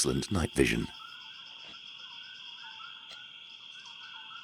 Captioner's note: crickets chirping